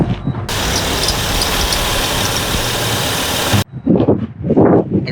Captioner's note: engine rumbles